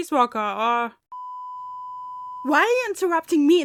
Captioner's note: peep